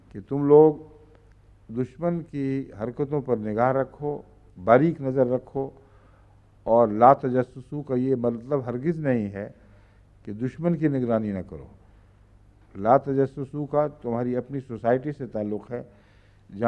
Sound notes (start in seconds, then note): 7.1 Arabic